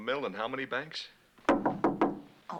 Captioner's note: knock on door